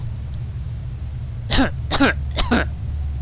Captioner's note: cough